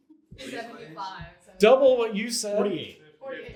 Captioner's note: audience chatter